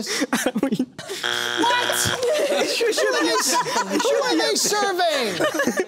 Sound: buzzer

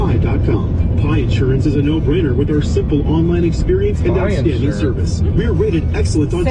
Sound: radio commerical

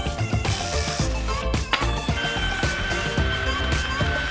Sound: buzzing

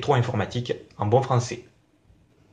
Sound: in good French

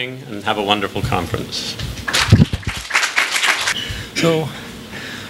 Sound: applause

